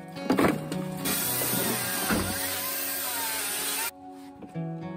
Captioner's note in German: Geräusch einer elektrischen Kettensäge